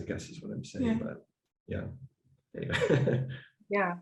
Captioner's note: laughs